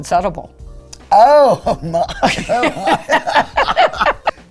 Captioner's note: laughing